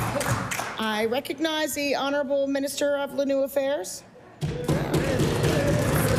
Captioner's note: applause